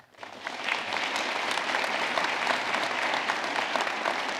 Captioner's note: audience clapping